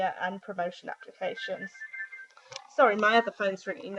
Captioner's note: mobile phone rings